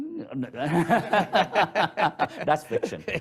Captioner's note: speakers laugh